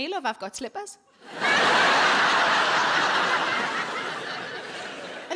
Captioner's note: audience laughing